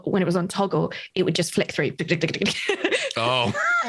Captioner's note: imitates button ticking; laughs